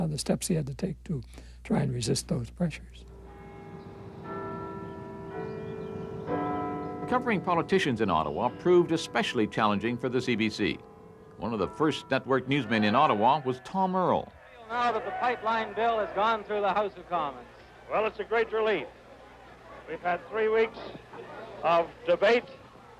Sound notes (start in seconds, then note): 6.5 bells chiming